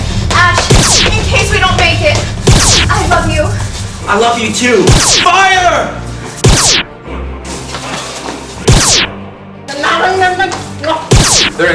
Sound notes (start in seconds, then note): 6.4 laser noises; 9.4 alien noises